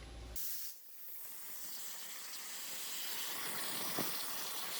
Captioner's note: tool whirs